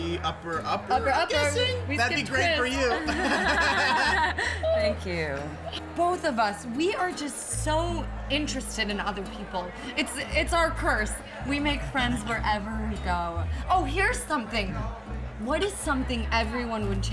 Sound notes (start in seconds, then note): 2.6 Susan and Jeff laugh